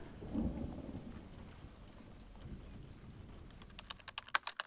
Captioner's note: keyboard Typing Sounds